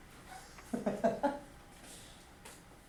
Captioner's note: laughs